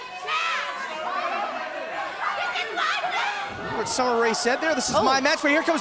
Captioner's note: fans chanting